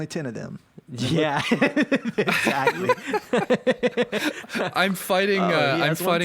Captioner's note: everyone laughing